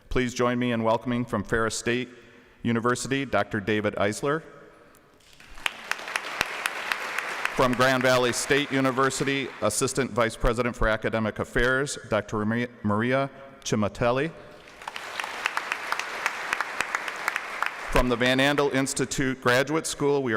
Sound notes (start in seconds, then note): 5.2 applause; 14.5 applause